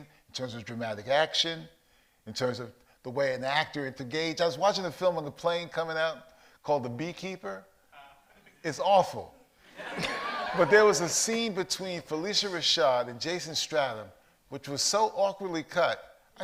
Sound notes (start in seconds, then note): 9.7 audience laughs